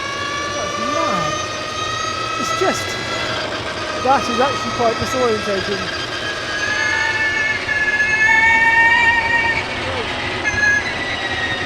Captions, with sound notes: That's mad. It's just, that is actually quite disorientating. (engine revving) Oh.